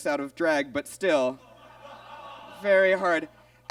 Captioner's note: audience groans